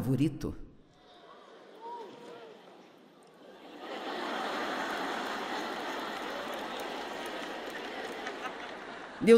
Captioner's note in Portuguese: audiência ri